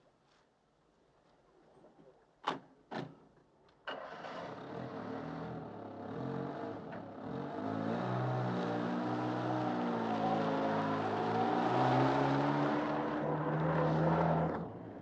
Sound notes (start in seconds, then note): none